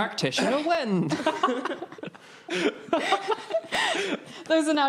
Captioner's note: laughing